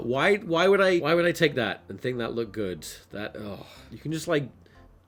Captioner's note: deep sigh